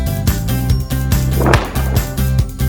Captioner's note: boom